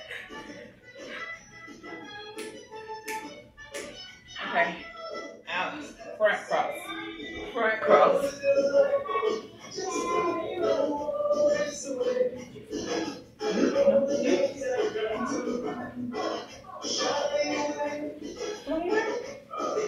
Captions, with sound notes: [Snapping Fingers] Okay, now its front cross. Front cross. - Did you poot? - No. You? Not you either?